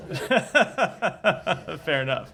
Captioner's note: laughs